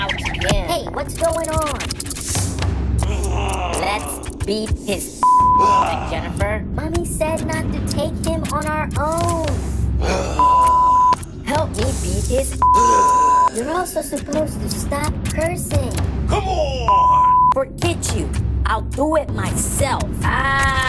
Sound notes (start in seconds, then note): 5.2 beep; 10.4 beep; 16.9 beep